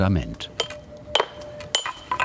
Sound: chiseling

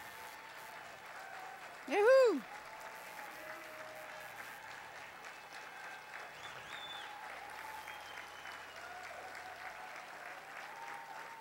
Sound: cheering, applause

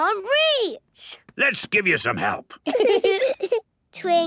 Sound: giggling

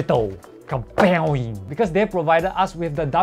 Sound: kablowie!

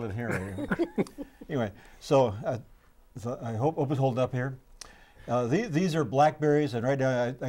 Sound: laughing

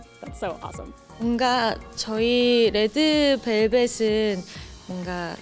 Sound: foreign language

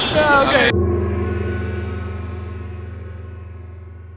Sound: gong

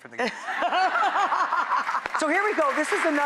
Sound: Rachael laughs; audience laughs

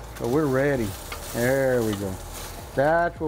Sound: pan sizzling

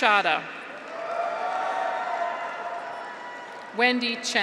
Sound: graduates cheer; audience applauds

